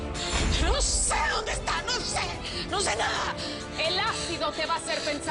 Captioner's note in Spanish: Jadeando